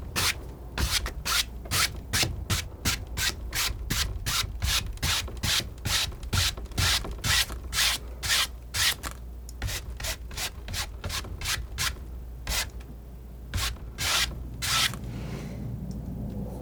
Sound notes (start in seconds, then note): 4.3 scratching